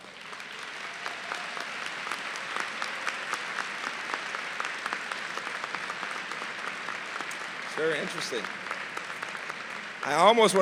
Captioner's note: applause